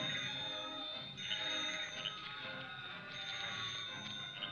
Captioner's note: phone rings